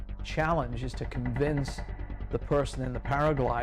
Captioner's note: voiceover